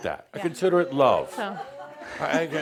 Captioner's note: some chuckles